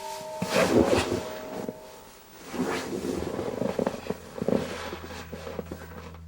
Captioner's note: sofa squeaks